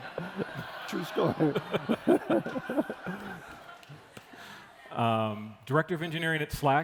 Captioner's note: laughter